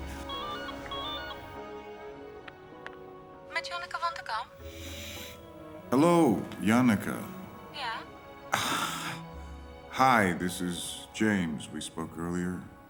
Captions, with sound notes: [ringing] [Nina in Dutch] Janneke Van De Kamp speaking. [in English] Hello, Janneke. Yeah? [sighs] Hi, this is James. We spoke earlier.